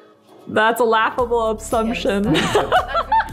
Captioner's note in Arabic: يضحك